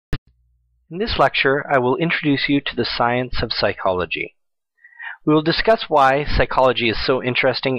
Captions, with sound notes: - [Voiceover] In this lecture, I will introduce you to the science of psychology. We will discuss why psychology is so interesting